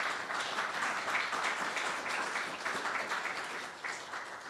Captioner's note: applause